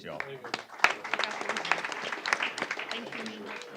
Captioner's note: applause